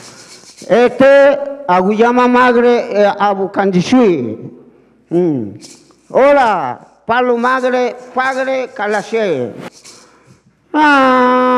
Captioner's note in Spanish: habla en lengua indígena